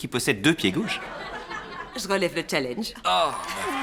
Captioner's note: audience laughs